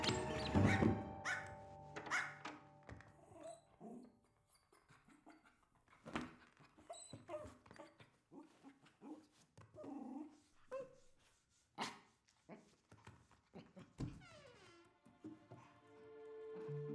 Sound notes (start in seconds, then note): 2.0 barking continues; 9.3 dog vocalizes playfully; 15.2 door creaks